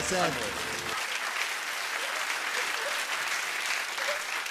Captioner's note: cheers and applause